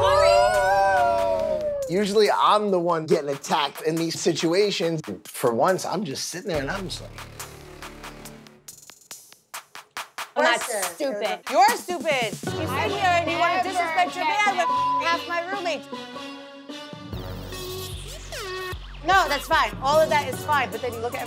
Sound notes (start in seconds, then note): 14.6 beep; 15.9 dramatic music